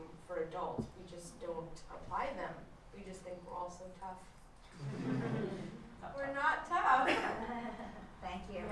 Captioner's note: laughter